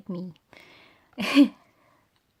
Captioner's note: laughs